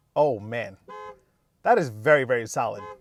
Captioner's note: car honking